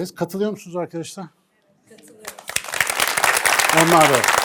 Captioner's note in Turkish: alkış